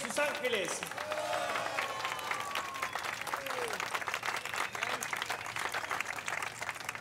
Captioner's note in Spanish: aplausos; gritos y exclamaciones